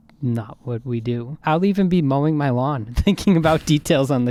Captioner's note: chuckles